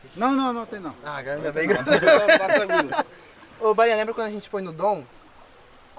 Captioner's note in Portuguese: risos